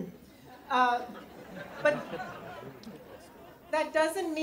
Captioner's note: crowd laughs